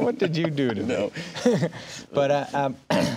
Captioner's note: laughing